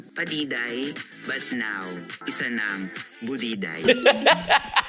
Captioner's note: laughs